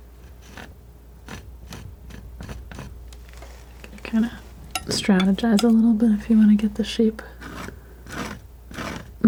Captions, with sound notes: (scratching) Kind of strategize a little bit if you want to get the shape,